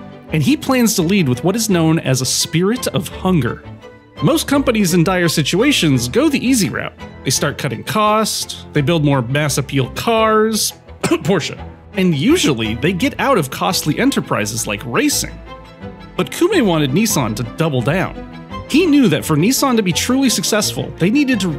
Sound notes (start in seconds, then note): 11.0 coughs